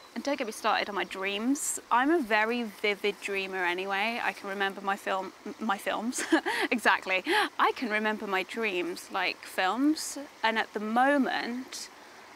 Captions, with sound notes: And don't get me started on my dreams. I'm a very vivid dreamer anyway, I can remember my film, my films (laughs), exactly. I can remember my dreams like films, and, at the moment,